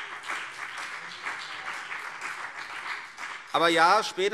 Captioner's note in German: Beifall CDU und BÜNDNIS 90/DIE GRÜNEN